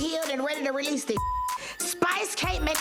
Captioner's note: beep